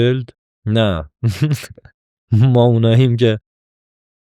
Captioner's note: laughs